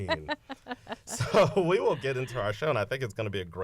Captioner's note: laughter